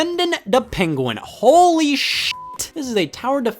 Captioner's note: beep